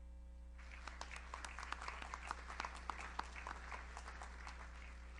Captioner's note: audience applauds